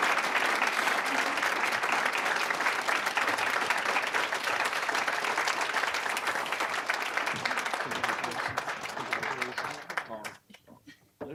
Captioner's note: applause